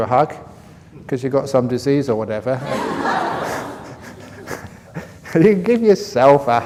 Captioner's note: laughter